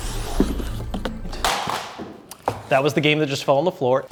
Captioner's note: box clatters